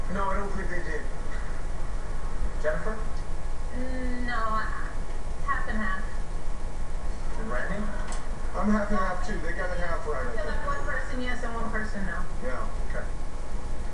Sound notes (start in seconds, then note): 4.3 on TV; 8.2 on TV